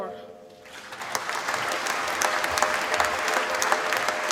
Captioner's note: applause